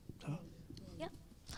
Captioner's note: speaking in French